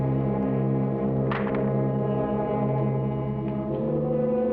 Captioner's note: rifle thuds